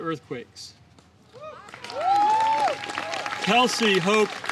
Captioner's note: applause